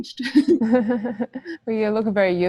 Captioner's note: laughs